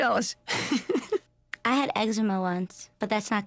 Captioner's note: laughs